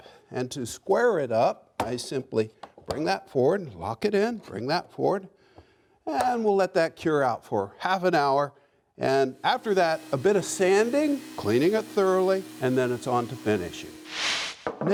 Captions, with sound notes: and to square it up I simply bring that forward, lock it in, bring that forward, and we'll let that cure out for half an hour. And after that a bit of sanding, cleaning it thoroughly, and then it's on to finishing. (sander buzzes) (whooshing)